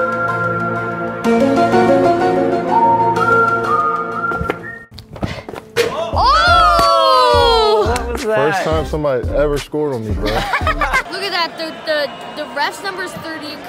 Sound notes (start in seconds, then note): 10.2 laughing